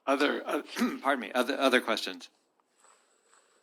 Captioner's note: clears throat